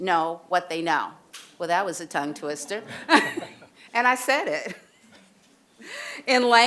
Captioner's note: laughter; laughter